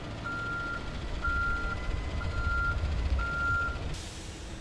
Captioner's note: back-up alarm beeping; truck engine roaring